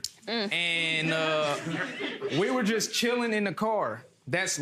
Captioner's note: audience laughs